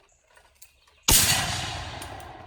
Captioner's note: loud shot